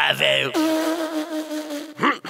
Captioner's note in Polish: śmiech Solaris